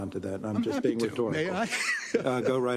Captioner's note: laugh